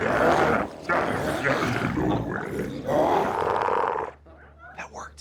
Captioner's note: glowzies grunting continues